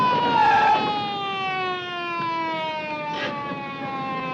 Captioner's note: siren wailing; tires screeching